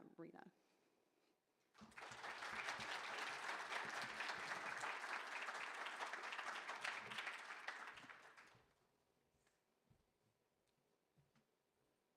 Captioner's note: applause